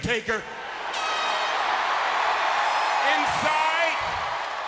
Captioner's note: crowd cheers